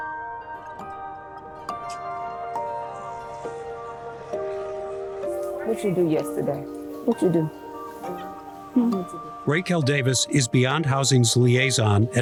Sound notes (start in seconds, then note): 0.2 gentle music; 0.2 traffic rumbling; 8.4 student speaks softly